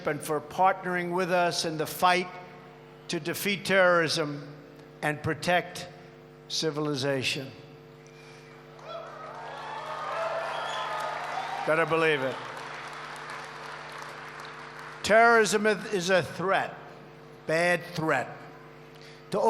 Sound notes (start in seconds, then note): 8.7 applause